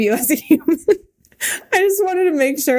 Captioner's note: Mikaela laughing